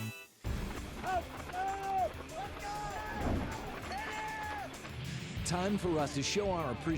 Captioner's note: fighter sounds